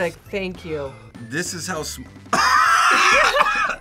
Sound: coughs; laughs

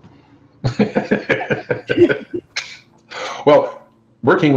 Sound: laughs

